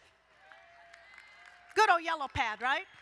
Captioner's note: crowd clapping